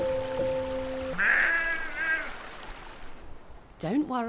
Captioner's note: funny loud sheep sound ends music abruptly